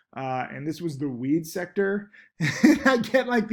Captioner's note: laughs